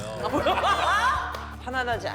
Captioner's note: cracking up